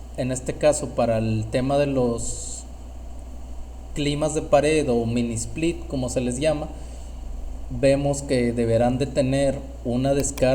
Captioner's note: air conditioning